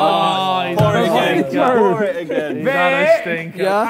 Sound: Sidemen sigh

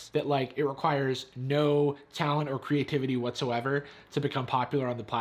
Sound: none

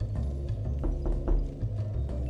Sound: knocking

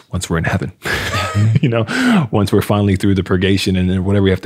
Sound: laughing

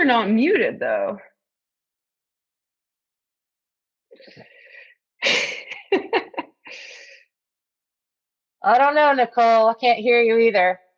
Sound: laughs

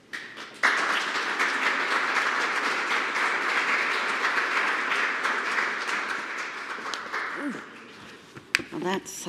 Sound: applause

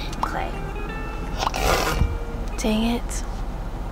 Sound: snort

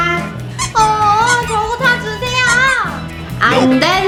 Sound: mumbling

